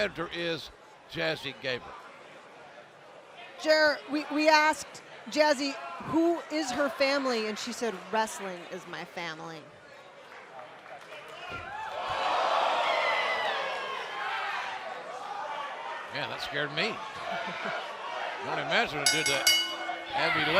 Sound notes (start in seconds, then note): 14.3 cheers and applause